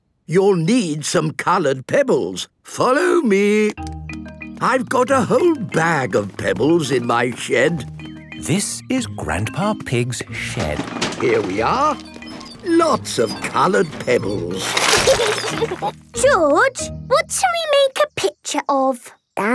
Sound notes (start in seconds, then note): 10.2 bangs and rattles; 14.9 laughing